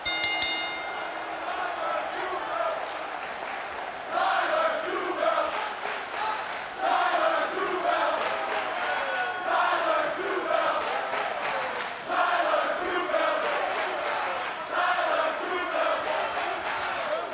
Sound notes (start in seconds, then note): 0.0 bell rings; 1.9 crowd chants "Tyler two belts"